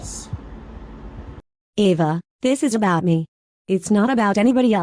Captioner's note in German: unterbricht kühl